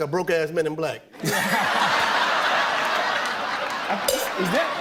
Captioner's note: laughter